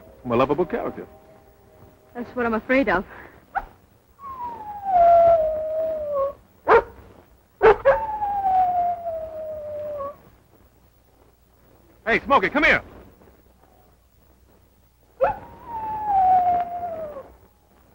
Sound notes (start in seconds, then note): 4.2 howling; 6.6 barking; 7.6 howling; 15.1 howling